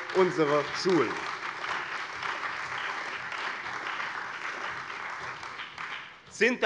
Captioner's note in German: Beifall bei dem BÜNDNIS 90/DIE GRÜNEN und der CDU